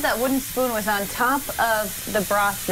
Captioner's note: sizzling